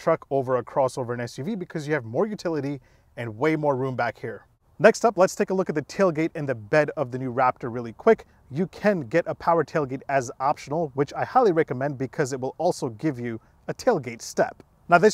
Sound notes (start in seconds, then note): none